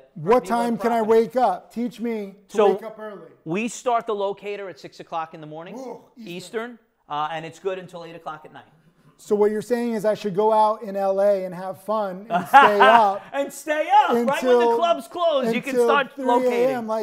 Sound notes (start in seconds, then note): 12.3 laughing